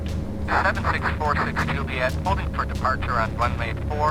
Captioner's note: man on Radio